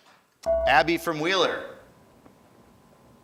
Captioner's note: ding